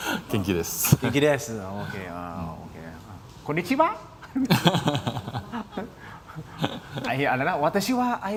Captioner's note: laughter